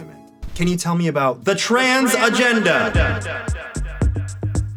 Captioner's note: echoing